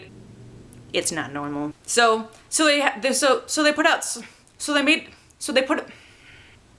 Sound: sighs

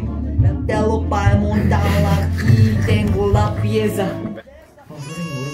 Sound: laughing

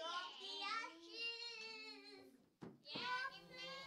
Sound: howl quietly

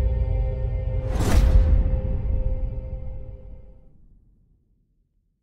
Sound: dramatic sound

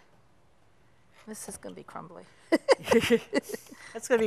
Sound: both laugh

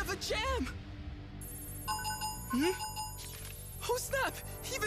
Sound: beeping

